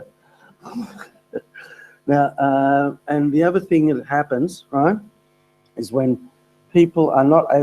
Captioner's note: laugh